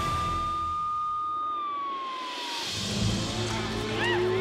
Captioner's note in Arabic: صوت صفارات الإنذار; صراخ، أنين